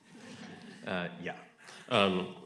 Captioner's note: audience laughing